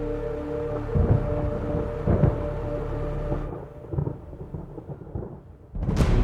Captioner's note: thunder rumbles